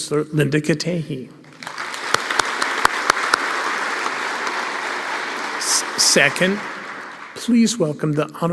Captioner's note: applause